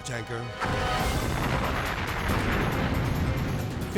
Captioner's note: fire booming